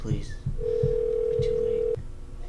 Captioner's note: ringing in cell phone